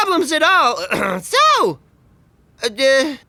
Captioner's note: throat clearing